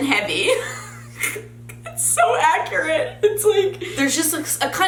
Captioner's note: laughs